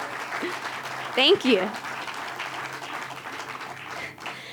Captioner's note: applause